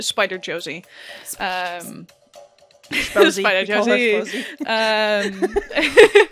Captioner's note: whispering; laughter